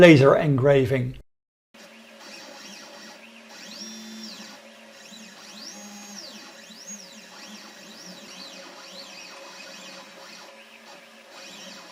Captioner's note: machine noise